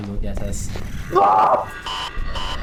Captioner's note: manly Screams